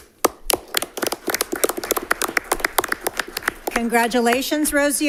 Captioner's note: applause